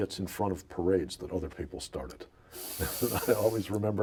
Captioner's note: laughs